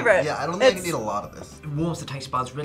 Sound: in English accent

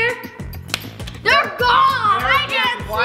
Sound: clap

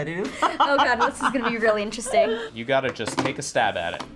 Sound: laughs

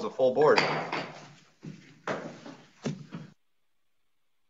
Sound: gavel knocking

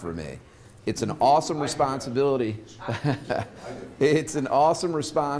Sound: chuckles

